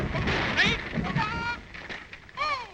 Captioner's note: bird calls